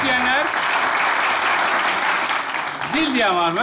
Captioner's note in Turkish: alkış sesleri